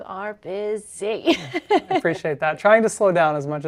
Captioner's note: chuckling